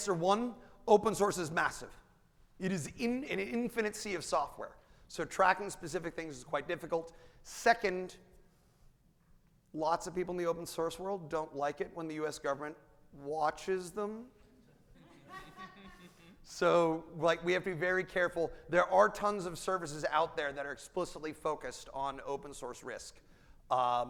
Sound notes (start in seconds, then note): 15.0 audience laughing